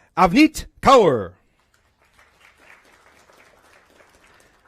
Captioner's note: applause